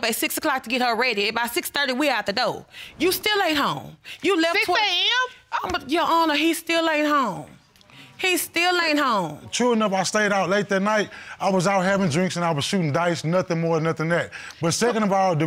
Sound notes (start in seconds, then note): none